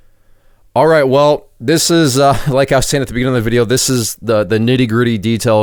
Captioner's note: laughing